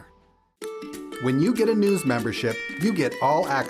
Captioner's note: voiceover